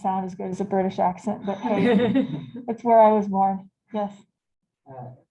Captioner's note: laughter